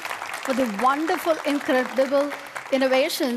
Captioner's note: applause